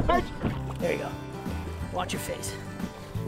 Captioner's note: laughing